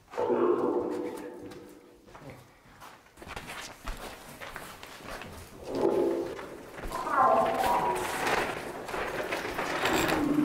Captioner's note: Footsteps and Portal talking in the background